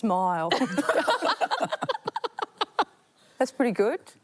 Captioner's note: laughter